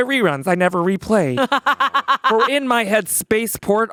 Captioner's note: laughing